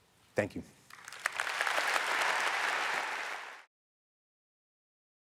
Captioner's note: audience applauds